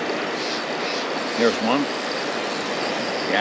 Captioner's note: reel spinning; water flowing